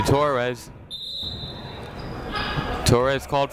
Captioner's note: whistle blows